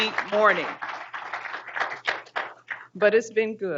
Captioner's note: group applauding